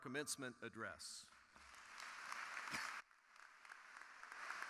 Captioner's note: crowd applauding